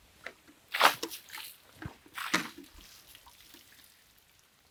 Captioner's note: water splashing